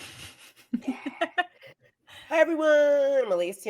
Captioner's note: laughing